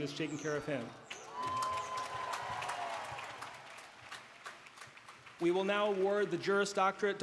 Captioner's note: applause